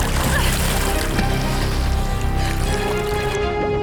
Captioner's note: Dottie grunts